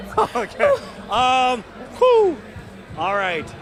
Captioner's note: laughter